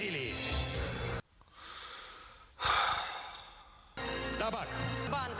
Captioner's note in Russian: вздыхает